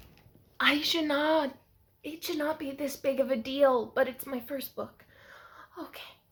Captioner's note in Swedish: djupt andetag